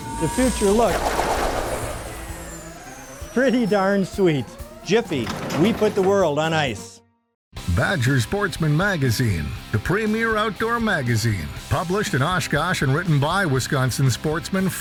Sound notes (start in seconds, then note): 7.4 voiceover